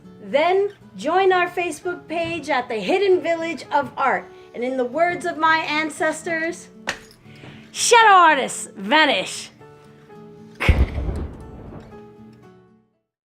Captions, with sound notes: The join our Facebook page at the 'Hidden Village of Art' and in the words of my ancestors Shadow Artists! Vanish! [smoke bomb explodes]